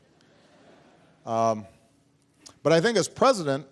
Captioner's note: laughter